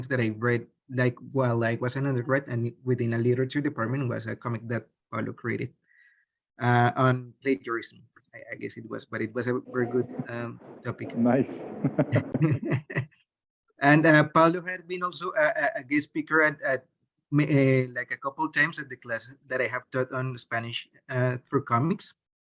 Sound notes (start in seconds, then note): 11.6 laughs